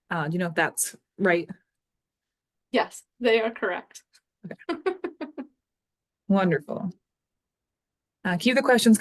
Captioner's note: chuckles